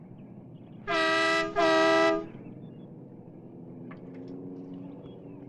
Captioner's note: car horn honking